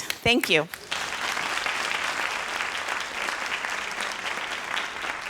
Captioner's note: audience applauding